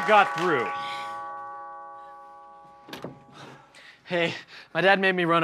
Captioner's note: doorbell rings